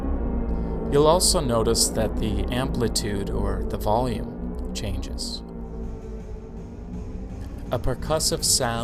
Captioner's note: electric wave quietens; percussive, pitchless rattling begins